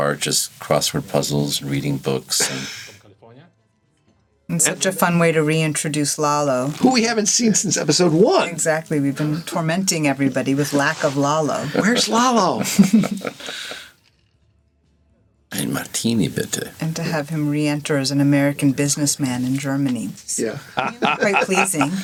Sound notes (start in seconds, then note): 11.5 all chuckle